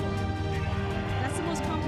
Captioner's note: cheering